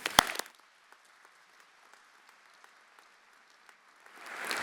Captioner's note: everyone applauding